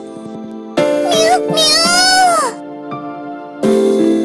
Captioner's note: roaring